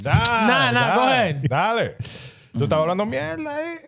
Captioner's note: speaking In Foreign Language